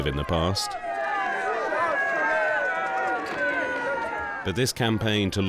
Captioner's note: crowd cheering